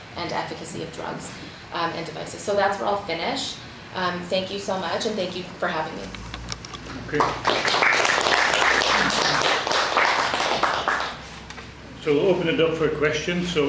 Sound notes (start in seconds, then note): 7.1 audience applauds